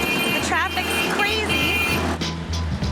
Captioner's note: horns beeping